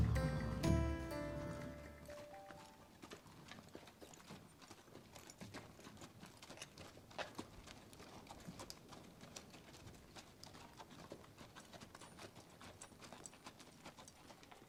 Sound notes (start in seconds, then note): none